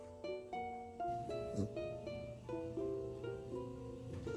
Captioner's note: sniffling sound